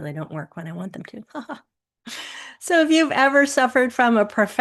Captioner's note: chuckles